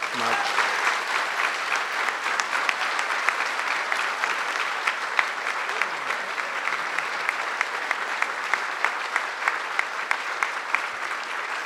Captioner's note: applause